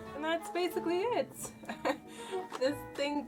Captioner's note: laughs